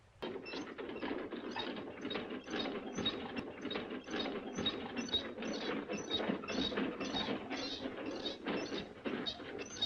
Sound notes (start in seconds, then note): 0.6 wheels squeaking